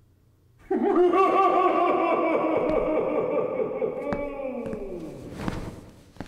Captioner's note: evil laugh